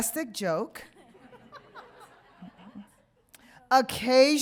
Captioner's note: audience laughing